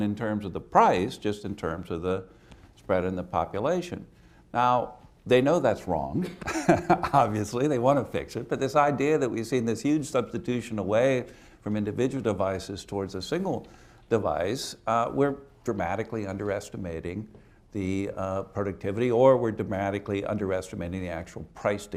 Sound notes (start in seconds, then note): 6.3 laughs